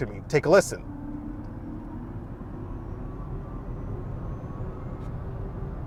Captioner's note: car revving softly